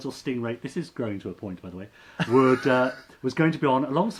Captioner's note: laughs